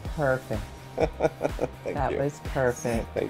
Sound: laughter

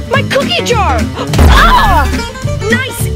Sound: gasps; grunts

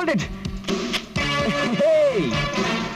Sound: camera clicks

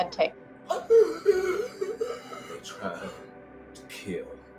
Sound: choking

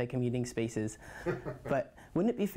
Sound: laugh

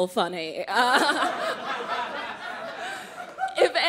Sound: crowd laughing

